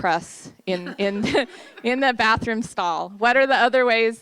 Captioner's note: laughter